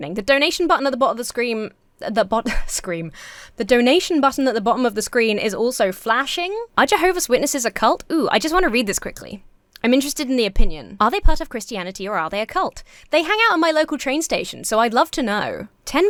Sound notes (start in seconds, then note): 3.1 sighs